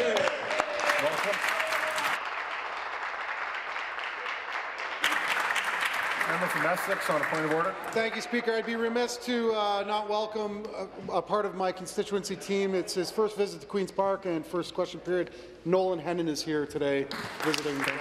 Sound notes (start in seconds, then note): 3.6 applause